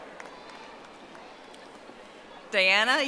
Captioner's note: audience applauding